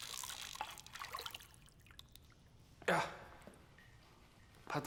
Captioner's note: water splashing; fishing rod reeling